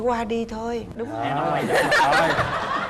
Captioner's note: laughing